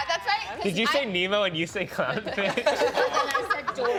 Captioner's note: all laughing